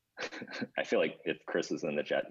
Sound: laughs

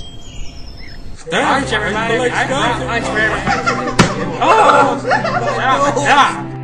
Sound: kids shouting

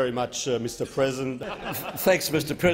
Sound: laughing

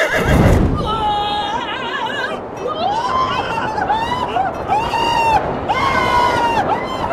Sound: screams

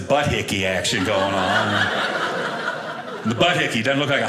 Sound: audience laughing

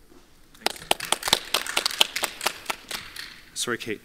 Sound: audience applauds

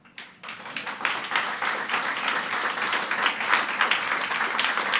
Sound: audience clapping

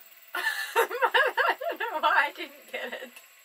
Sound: laughs

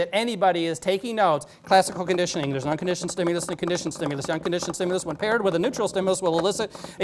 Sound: phew

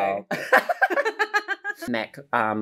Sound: both laughing

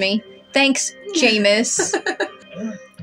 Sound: laugh

